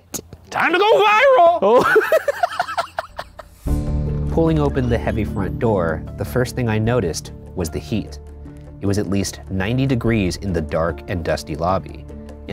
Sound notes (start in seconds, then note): 1.6 both laughing